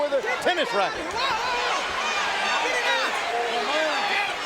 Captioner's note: audience cheering